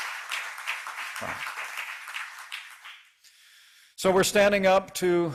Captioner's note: applause